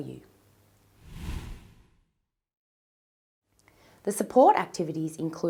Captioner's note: whooshing